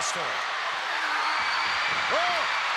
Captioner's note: crowd cheering